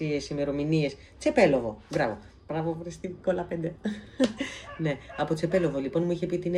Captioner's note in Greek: γέλια